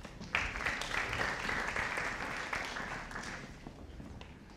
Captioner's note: audience applauding